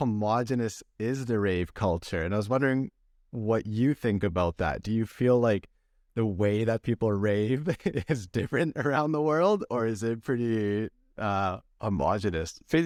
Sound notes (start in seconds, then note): 7.6 laughter